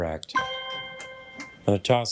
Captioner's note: triumphant chime